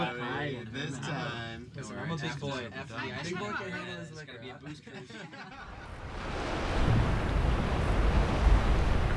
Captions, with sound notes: This time. I'm a big boy. [team chatters] [waves crashing]